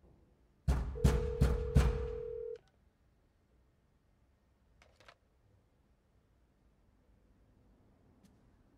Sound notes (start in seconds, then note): 0.7 door banging